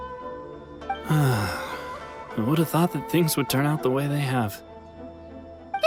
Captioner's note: sigh